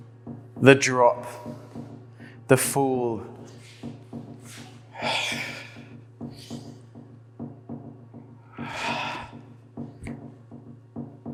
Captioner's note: exhaling breath